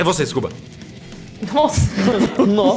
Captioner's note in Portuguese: Risos